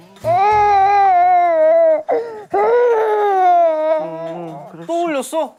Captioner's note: cue crying